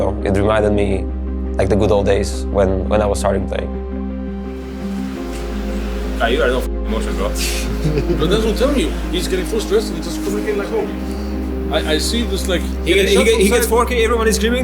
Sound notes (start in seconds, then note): 7.5 person laughing